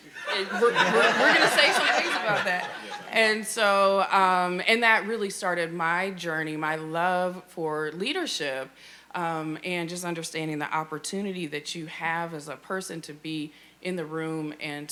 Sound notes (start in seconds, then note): 2.7 audience laughing